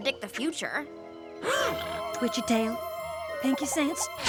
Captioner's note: gasps